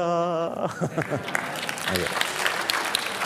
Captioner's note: Applause